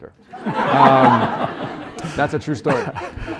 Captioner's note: laughter